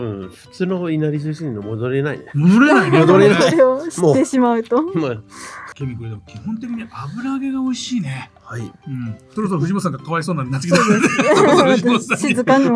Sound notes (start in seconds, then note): 6.3 laughs